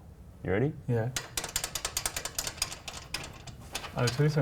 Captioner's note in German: Klapperndes Geräusch